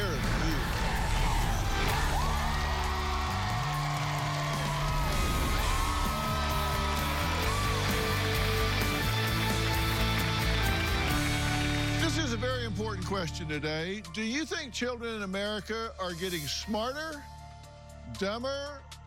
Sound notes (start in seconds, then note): 1.3 cheering and applause; 7.0 theme music